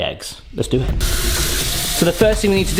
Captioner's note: water gushing